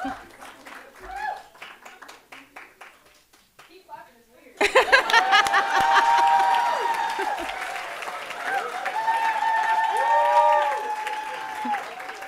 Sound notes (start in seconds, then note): 4.6 laughing; 6.4 audience applauding and cheering